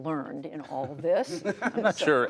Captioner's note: laughter